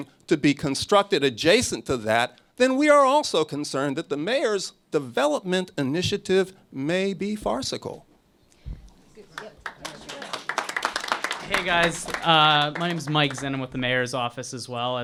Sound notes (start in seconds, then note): 9.3 applause